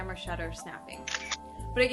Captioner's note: SFX: Camera Snap